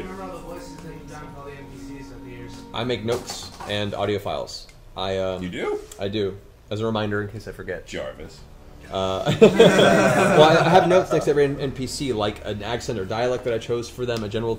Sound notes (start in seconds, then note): 9.2 all laugh